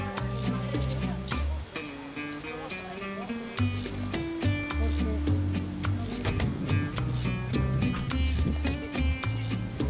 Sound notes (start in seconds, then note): 1.8 upbeat music; 1.8 water burbles